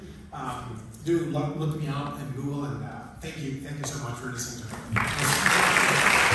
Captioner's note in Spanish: Aplausos